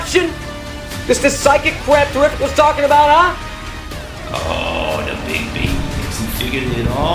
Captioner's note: echoing